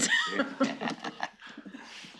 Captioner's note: laughing